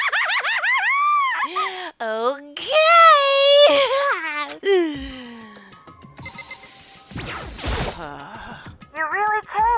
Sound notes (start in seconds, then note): 4.6 sigh